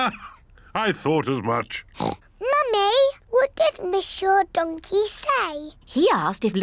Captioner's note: oinks